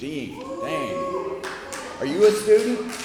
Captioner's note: cheering